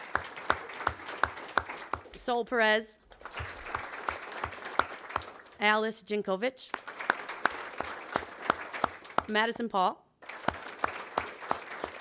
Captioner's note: applause